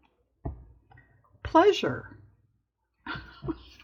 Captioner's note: laughs